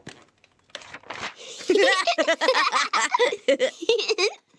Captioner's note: laughter